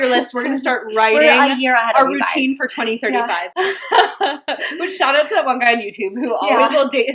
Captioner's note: laughing